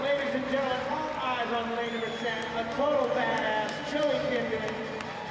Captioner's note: crowd applaudes and announcer continues narrating the event